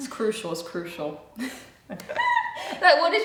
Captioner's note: both laugh